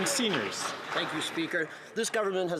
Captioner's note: some Applause